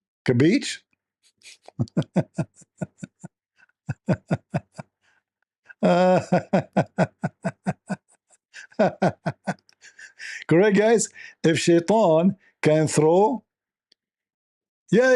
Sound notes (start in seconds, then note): 1.6 Ketawa